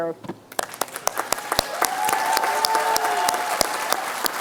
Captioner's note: applause